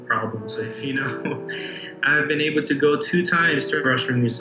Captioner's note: laughs